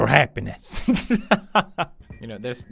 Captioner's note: laugh